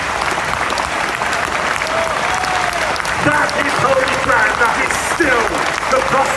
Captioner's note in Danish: Bifald